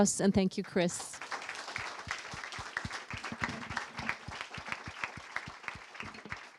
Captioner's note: applause